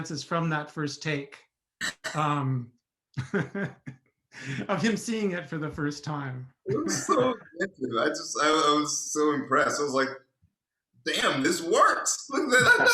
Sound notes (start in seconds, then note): 7.4 voice scrambles; 12.7 voice scrambles